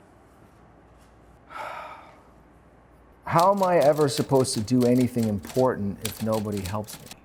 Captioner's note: sighs